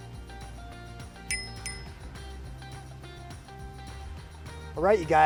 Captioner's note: bell dings